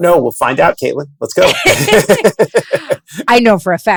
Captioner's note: both laughing